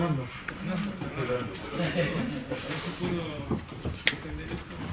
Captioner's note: murmuring